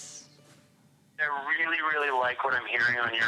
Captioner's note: on phone